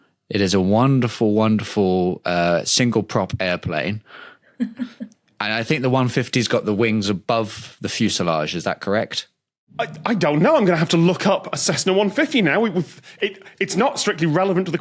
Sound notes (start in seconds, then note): 4.6 chuckles